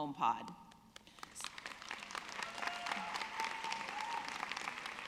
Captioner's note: audience clapping